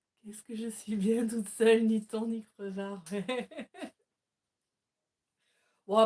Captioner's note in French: rires